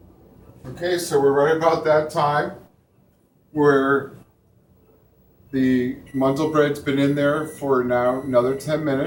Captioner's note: buzzer goes off